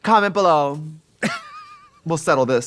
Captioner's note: Katya laughs; Katya laughing